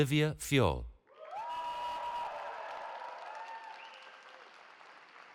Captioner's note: cheering